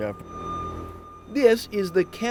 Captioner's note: loud beeping